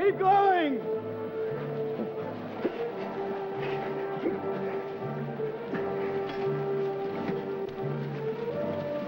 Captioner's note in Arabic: موسيقى درامية; أصوات النضال; موسيقى درامية